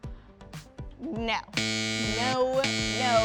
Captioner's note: buzzer ringing